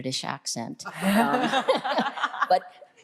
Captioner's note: group laughs